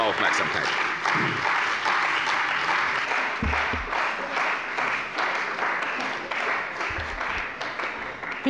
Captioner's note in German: Beifall bei der CDU und dem BÜNDNIS 90/DIE GRÜNEN